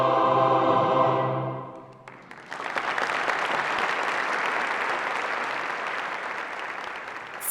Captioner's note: applause